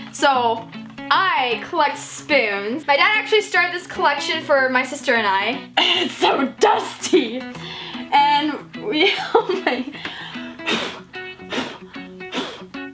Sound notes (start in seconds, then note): 9.0 laughs; 10.1 blows